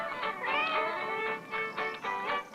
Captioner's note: cat meowing